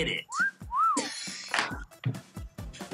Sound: whistle

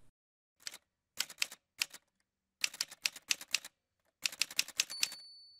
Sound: typewriter Sounds

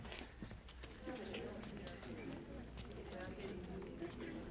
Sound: background chatter

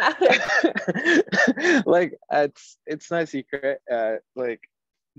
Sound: laughs

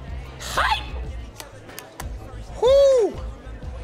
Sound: screams

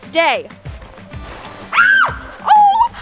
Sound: screams

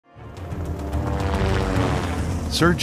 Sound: helicopter whirring

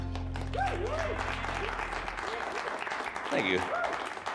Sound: cheers and applause

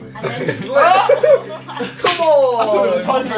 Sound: Josh shouting

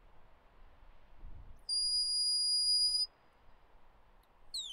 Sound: "Stop" whistle command; "Away" whistle command

